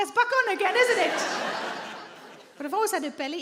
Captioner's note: audience laughing